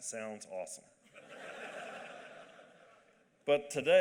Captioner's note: laughter